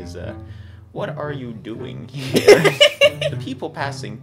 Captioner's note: laughter